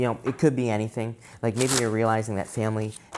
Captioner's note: cards shuffling